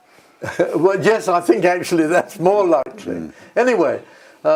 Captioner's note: laugh